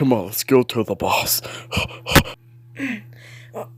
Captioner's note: pants; AN3257 grunts